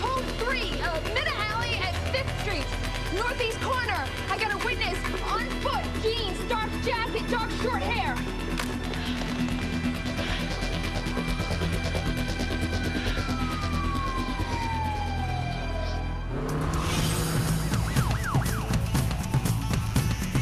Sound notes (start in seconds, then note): 8.2 panting; 11.9 siren blaring